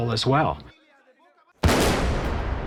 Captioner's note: gunshot